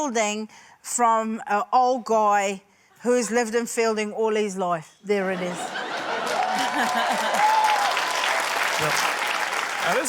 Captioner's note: laughter, cheering, applause